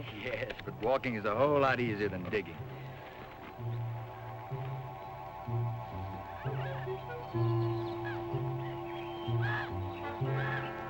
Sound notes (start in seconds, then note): 2.5 mysterious music; 3.0 birds chirping